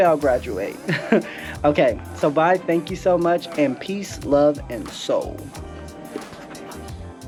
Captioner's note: laugh